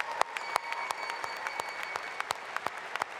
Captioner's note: applause